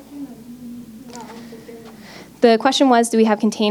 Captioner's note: crowd member mumbling